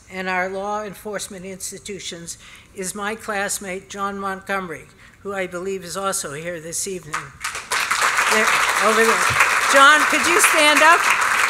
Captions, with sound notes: and our law enforcement institutions is my classmate John Montgomery, who I believe is also here this evening. [APPLAUSE] Over there. John, could you stand up?